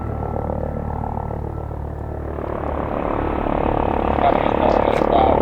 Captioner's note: helicopter gets louder as it nears